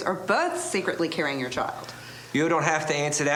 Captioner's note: none